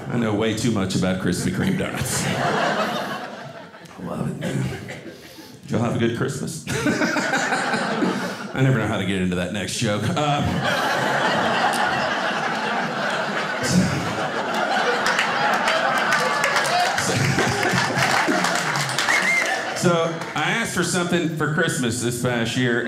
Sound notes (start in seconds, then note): 6.7 audience laughing; 10.6 audience laughing and clapping